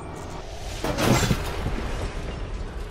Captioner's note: crash